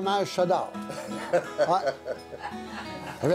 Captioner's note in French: rires